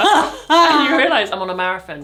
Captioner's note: both laugh